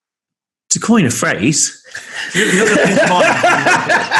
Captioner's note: laughing